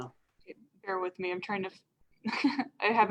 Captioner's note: laughs